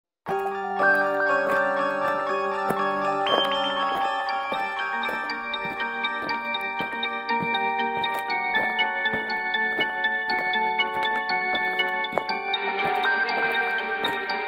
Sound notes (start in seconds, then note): 0.6 soft ominous music; 4.3 steps